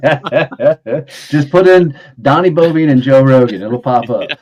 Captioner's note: both laughing